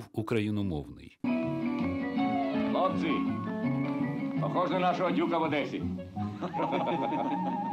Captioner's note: speaking in Ukrainian